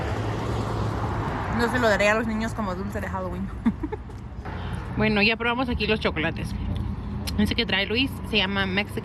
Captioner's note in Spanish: risas